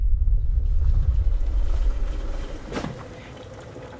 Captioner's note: water sloshing